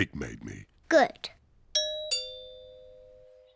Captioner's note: doorbell rings